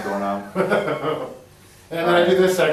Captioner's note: laughs